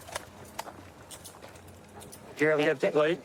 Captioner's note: handcuffs clicking